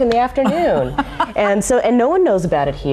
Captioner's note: laughing